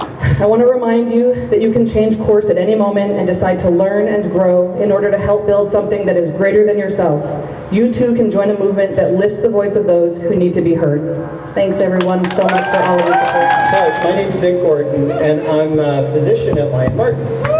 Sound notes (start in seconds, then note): 0.0 crowd laughs; 12.0 crowd cheers